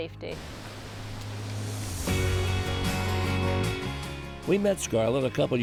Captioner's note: water rushing